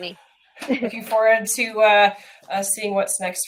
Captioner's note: chuckles